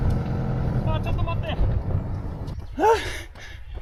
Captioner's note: man speaking in foreign language